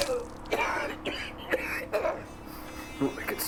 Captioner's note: smacking; coughing